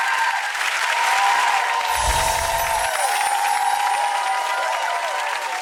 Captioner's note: audience applause